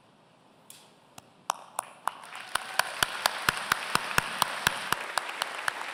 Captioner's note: applause